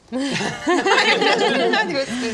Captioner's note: better-late-than-never laughter